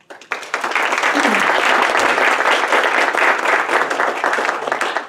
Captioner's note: audience applauding